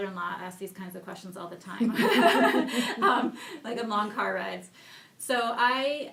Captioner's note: laughing